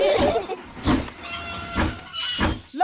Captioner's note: laugh; train chugs